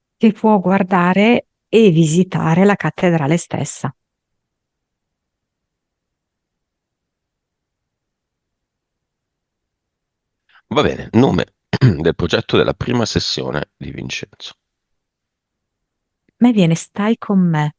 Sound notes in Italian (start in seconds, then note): 11.7 schiarire la voce